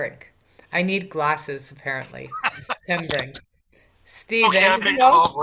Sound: laughs

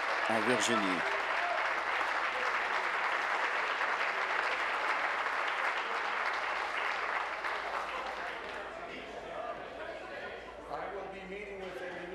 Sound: applause

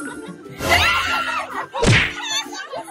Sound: screams

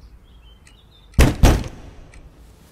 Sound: door banging

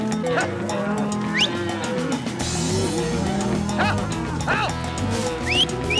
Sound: mooing; booger whistling

